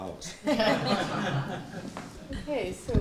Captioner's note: laughter